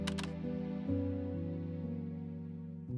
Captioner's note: camera clicking